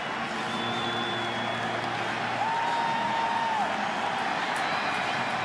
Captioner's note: cheering